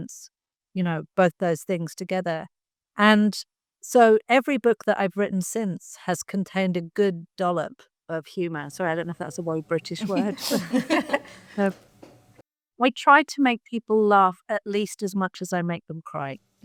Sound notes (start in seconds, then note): 10.0 panelists laughing